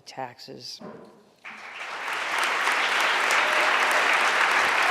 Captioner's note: audience applauding